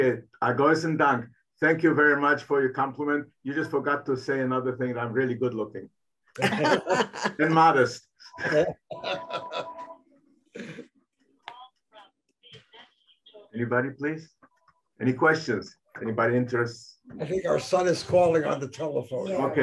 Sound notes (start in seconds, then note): 0.4 speaking in foreign language; 6.4 audience laughing; 8.3 chuckling; 8.9 phone ringing